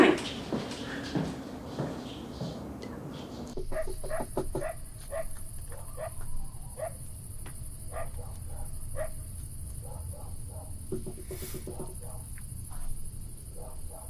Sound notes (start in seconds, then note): 3.5 Donny knocks on door; 10.8 Donny knocks on door